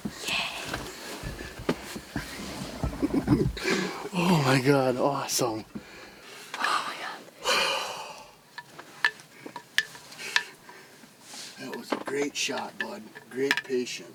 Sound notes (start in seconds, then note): 2.8 laughs; 7.4 sighs